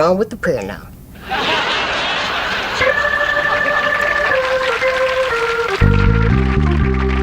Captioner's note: audience laughs; audience applauds